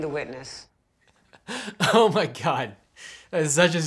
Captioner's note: laughs